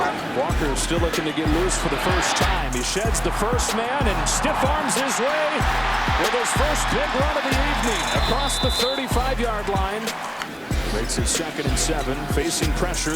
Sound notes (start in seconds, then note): 0.0 soft upbeat music; 4.5 crowd cheering; 7.8 whistle blows